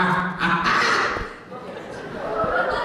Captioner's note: maniacal laughter; wizard chokes briefly